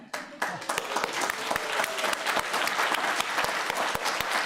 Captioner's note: crowd applauding